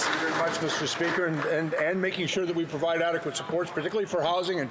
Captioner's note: some Applause